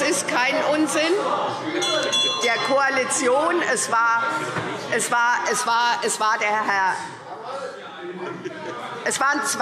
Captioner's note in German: Zurufe SPD und Gegenrufe CDU – Glockenzeichen